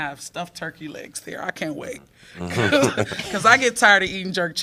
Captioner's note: laughter